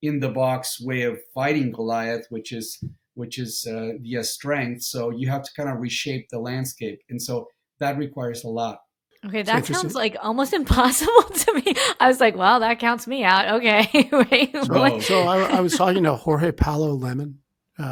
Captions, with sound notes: in the box way of fighting Goliath, which is via strength. So you have to kind of reshape the landscape. And so that requires a lot. - Okay, that sounds like almost impossible to me. I was like, wow, that counts me out. Okay, wait. (laughs) - So I was talking to Jorge Paulo Lemann,